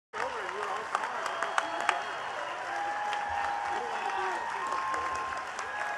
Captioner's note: attendees cheering and clapping